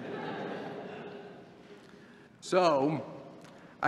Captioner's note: laughter